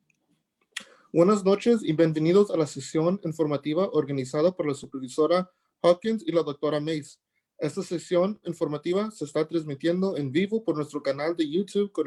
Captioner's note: speaking Spanish